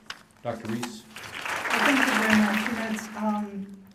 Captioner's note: applause